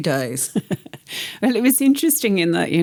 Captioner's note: laughter